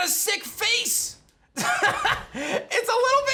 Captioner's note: laughs